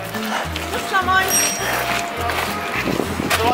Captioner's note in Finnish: pling